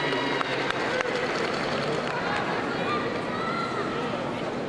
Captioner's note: crowd cheering